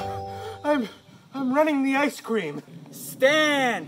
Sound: out of breath

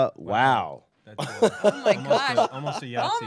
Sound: laughing

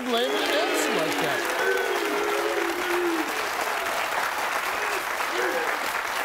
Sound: audience applauding

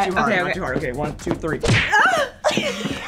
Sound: both women laugh; screams

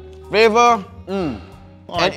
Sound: moans in approval

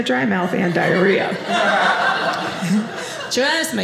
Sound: audience laughing

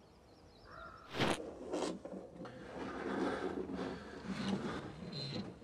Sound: camera whirring; person breathing

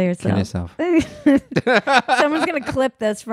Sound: laughs loudly

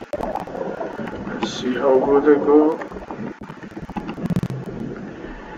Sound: sound of submarine; whispering

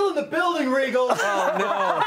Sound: laughter

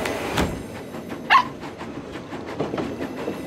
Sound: barking

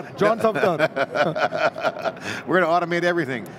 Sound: both laugh

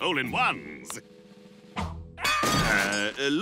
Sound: screaming

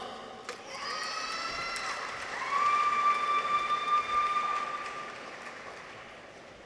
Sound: people cheer; audience applauds

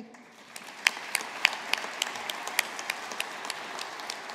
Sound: audience applauding

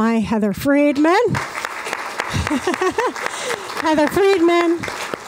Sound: applause

